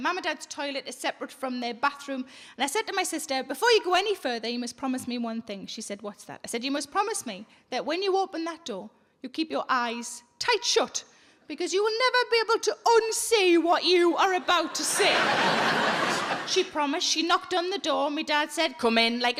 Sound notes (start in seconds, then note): 14.4 audience laughing